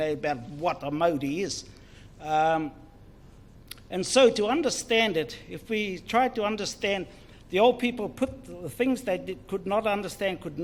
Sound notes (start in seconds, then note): none